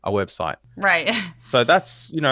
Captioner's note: laugh